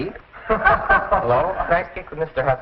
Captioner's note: laughter